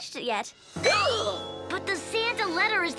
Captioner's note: giggles; Milo gasps